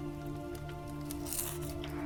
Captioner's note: chewing